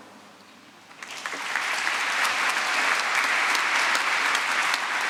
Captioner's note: applause